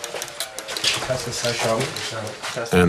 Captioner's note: foreign language